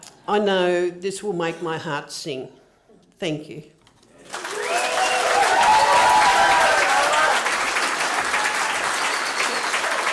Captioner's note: cheering and applause